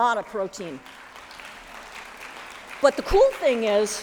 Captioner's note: applause